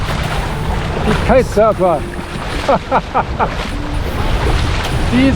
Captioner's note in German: Lachen